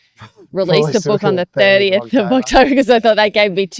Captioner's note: laughs